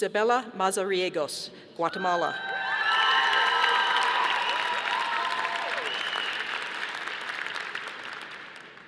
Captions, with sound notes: Isabella Mazariegos, Guatemala. (audience applauding)